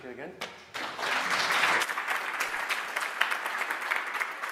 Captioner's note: audience applauds